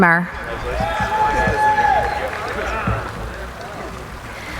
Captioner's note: applauding